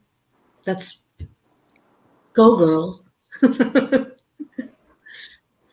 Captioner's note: laughs